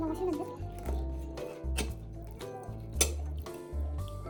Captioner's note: crunch crunch